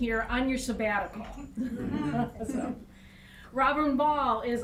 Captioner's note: everyone laughing